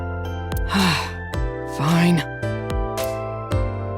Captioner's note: sigh